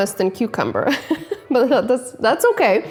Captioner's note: laughing